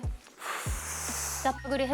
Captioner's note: deep breath